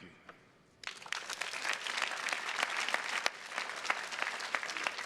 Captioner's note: attendees clapping